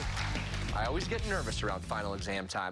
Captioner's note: cheers and applause